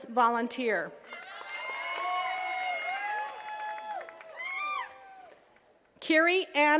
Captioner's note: attendees cheering and clapping